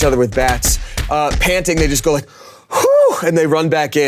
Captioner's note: Damien sighing deeply